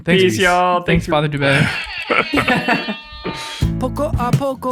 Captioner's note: air horn blows; gentle acoustic music